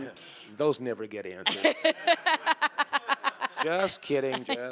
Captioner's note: laughing